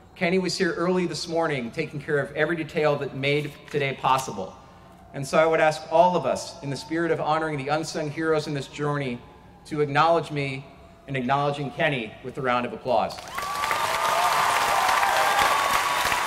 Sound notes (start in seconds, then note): 13.1 applause